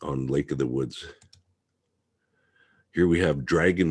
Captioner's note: mouse clicking